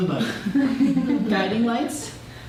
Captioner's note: laughter